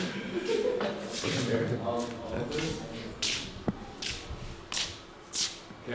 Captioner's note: footsteps